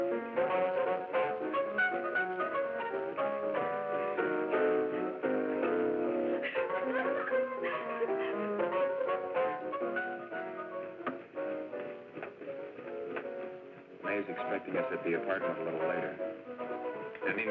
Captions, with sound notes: (Agnes laughing) - Mae is expecting us at the apartment a little later.